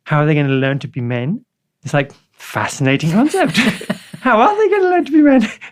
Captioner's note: laughs